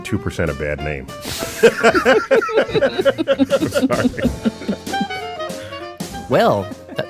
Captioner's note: laughs